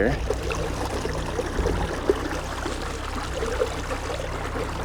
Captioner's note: water sloshing